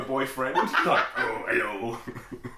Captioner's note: laughing